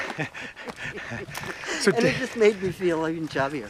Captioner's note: laughs